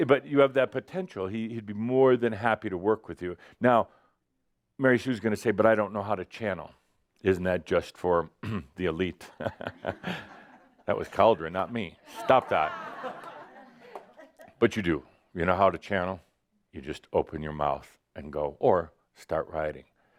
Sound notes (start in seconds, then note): 9.3 Adamus chuckles; 13.3 a few chuckles